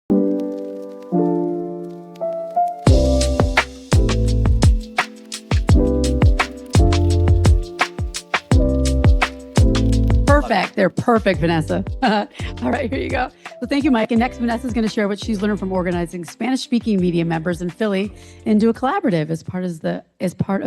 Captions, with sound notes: [on-hold music] Perfect. They're perfect, Vanessa. [chuckles] Alright, here you go. So thank you, Mike, and next, Vanessa's going to share what she's learned from organizing Spanish-speaking media members in Philly into a collaborative as part of the